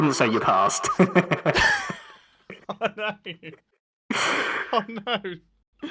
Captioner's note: laughs; chuckles